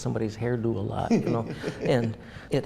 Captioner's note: laughs